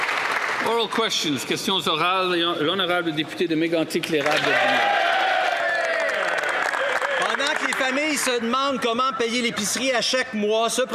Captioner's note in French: applaudissements